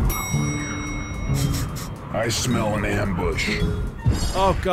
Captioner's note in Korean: 킁킁